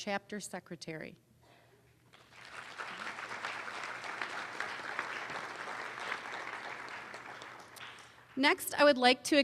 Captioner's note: applause